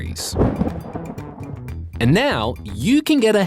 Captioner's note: thunder cracks